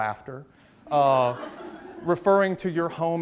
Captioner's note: audience laughs